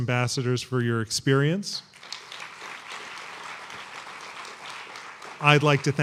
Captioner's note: applause